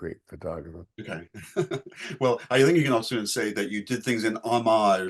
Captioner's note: chuckling